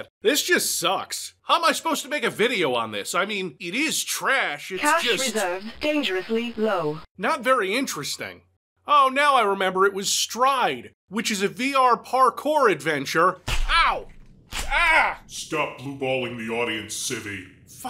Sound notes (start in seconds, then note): 14.5 whip cracking